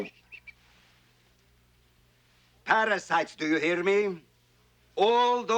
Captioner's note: shushes